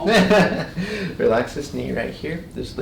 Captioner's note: chiropractor laughs